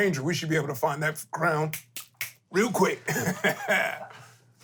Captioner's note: snaps